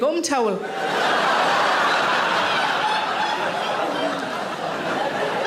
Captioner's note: audience laughing